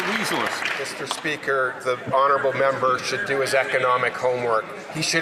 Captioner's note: some Applause